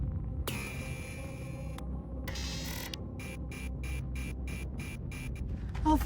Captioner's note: computer beeping and whirring